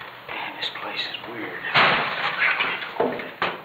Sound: door banging

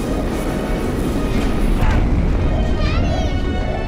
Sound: flares rushing; ship rumbling

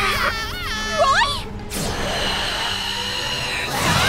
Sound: screaming

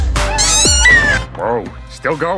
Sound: squeal

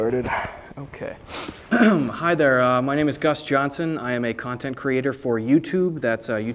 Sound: sniff

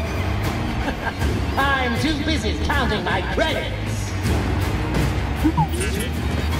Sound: laughs

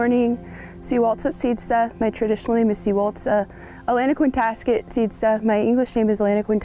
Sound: speaks native language

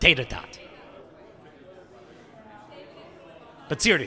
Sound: chattering

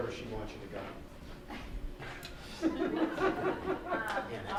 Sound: laughing

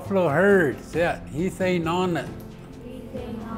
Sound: foreign language

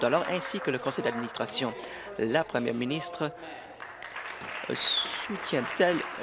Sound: applause

